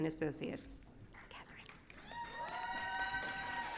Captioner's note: whispering